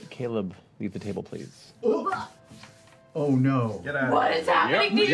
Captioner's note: surprised sounds